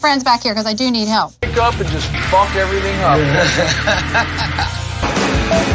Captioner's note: laugh